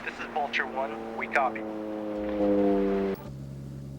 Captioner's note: plane buzzing